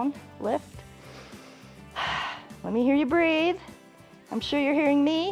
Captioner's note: inhales and exhales